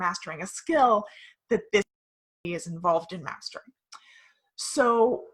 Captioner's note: audio cuts